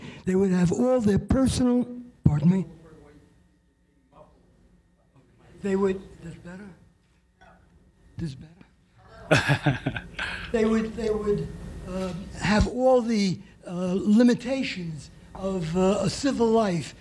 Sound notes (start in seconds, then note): 9.1 laughter